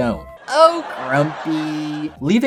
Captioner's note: laugh Track